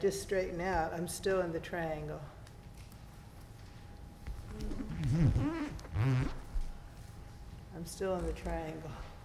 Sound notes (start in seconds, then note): 4.4 floor squeaking